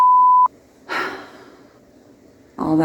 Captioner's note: sigh